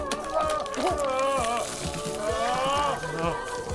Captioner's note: zombie hans screaming